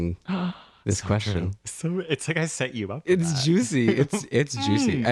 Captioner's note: laugh